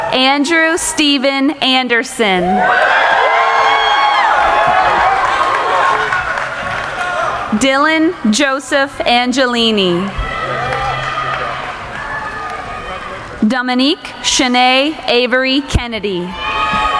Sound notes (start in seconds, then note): 2.4 cheering; 10.5 applauding; 16.2 cheering